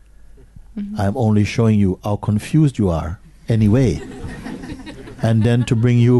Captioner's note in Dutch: gelach